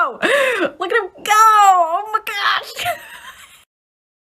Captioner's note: laughs